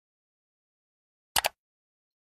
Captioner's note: click